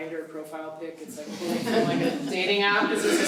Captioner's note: laughing